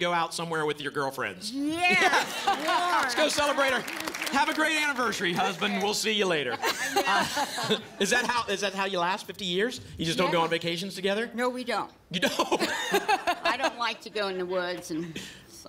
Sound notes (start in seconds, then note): 6.5 laughing; 12.2 laughter